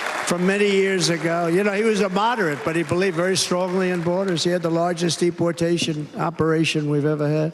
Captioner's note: cheers and applause